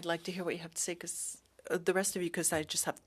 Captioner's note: speaking French